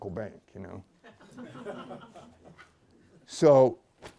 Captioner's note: laughter